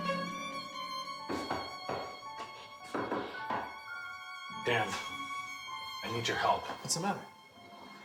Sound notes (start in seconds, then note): 1.2 knocking